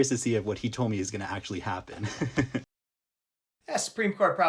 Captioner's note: laughs